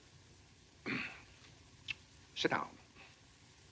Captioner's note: clears throat